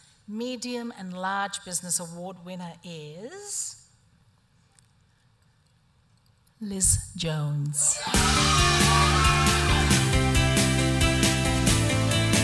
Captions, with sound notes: Medium and Large Business Award winner is... ..Liz Jones. (APPLAUSE AND MUSIC)